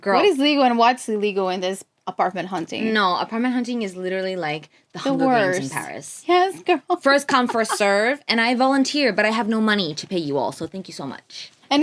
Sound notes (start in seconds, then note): 7.4 laughs